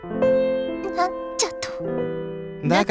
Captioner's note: sputtering disbelief